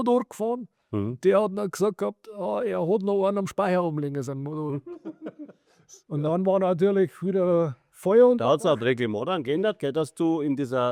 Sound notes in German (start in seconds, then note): 4.8 gelächter